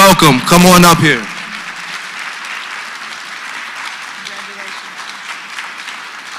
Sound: applause

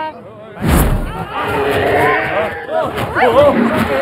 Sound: roar

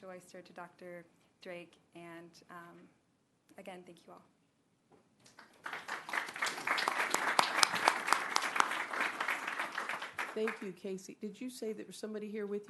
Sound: applause

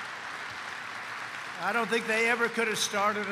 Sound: applause

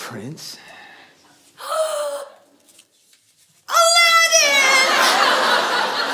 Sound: gasp

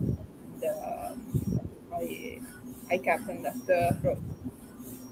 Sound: faintly speaking

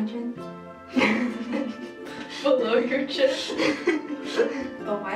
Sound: laughing

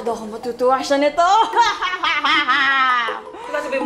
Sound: evil Laugh

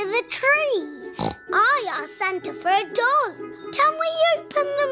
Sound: snorts

